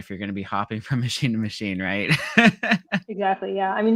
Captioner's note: laughing